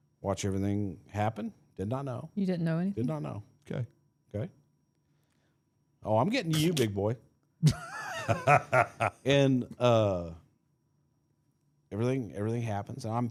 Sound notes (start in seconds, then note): 7.6 laughing